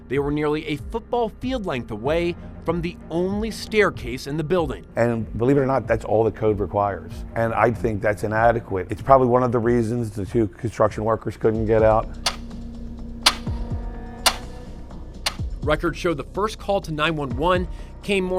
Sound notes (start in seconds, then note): 13.2 clock ticks